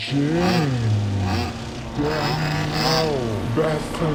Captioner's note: leaf blower buzzing